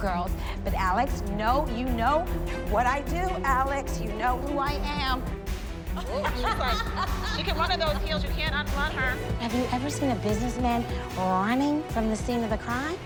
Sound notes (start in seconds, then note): 5.9 laughing